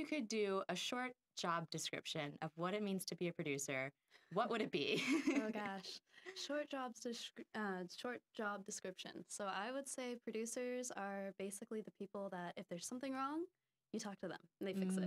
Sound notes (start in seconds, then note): 4.4 laughing